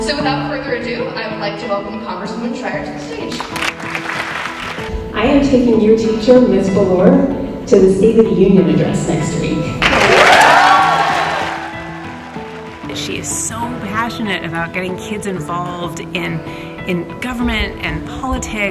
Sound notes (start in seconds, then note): 3.3 applause; 9.8 applause and cheering